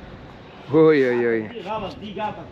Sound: speaking in foreign language

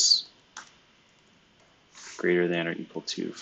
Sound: computer keyboard clicking

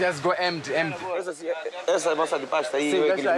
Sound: Portuguese spoken audio

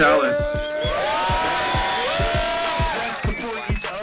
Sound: upbeat music; audience cheering

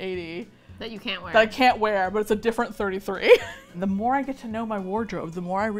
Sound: laughs

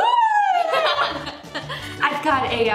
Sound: laughs

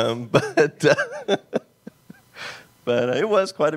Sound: laughs

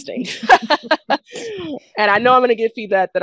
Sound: all laugh

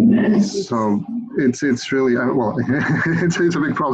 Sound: laughs

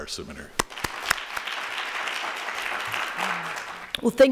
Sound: audience applauding

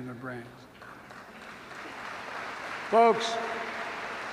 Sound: applause

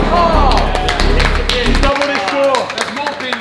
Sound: lads applauding

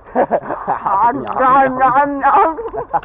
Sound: akward eating noise

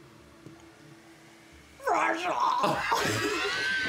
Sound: guttural sound

